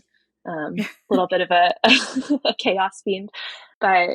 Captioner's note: <Laugh>